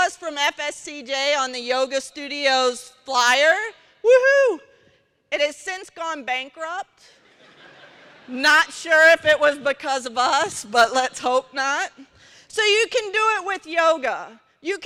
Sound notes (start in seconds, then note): 7.1 laughter